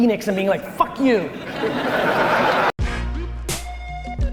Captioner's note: audience laughter